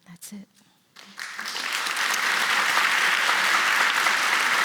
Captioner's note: applause